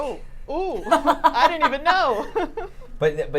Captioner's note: laughs